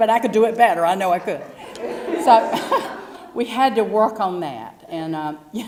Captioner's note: laugh